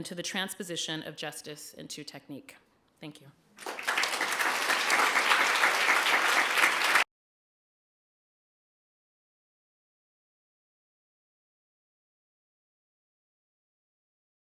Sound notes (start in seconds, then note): 3.6 applause